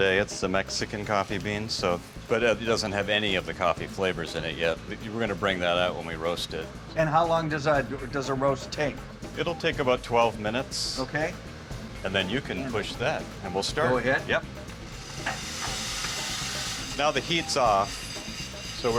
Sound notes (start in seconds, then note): 14.8 machinery whirs